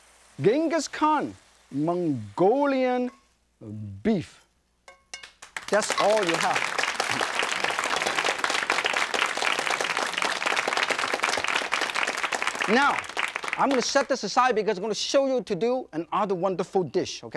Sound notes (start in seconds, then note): 7.8 audience claps